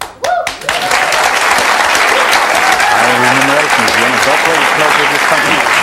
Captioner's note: audience cheering and clapping